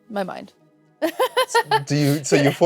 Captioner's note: laughs